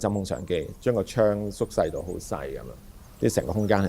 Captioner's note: birds chirp, wind rustles leaves